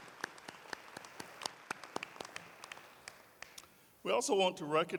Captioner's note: applause